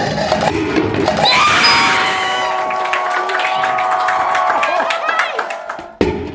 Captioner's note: screaming loudly